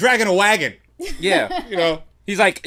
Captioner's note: laughs